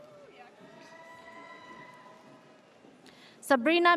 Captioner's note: audience cheers